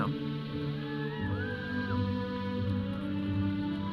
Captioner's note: audience cheering; processional music